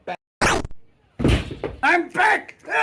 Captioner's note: gun fires